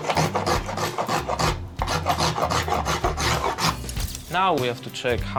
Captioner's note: scraping